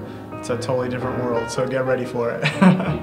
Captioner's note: laughs